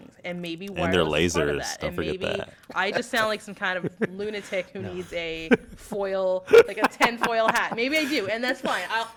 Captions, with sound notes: And maybe-- >> And their lasers. >> -- wireless is part of that-- >> -- Don't forget that. [ Laugh ] >> -- and maybe I just sound like some kind-- [ Laugh ] -- of lunatic who needs a foil-- [ Laugh ] -- like a tin foil hat. Maybe I do, and that's fine.